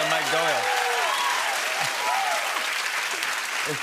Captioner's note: cheers and applause